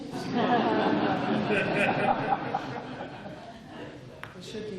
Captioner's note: laughter